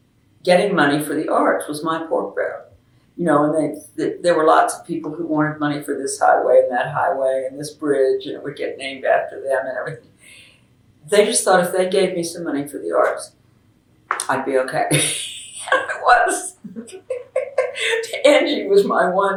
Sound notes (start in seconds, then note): 15.4 laughs